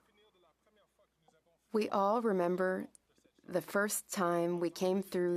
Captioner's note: speaking French